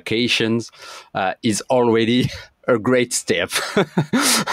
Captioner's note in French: rires